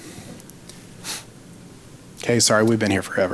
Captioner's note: sniffles